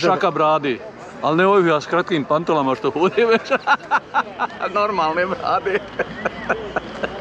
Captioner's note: laughs